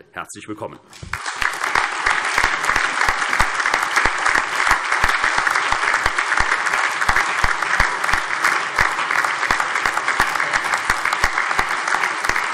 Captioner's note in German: Allgemeiner Beifall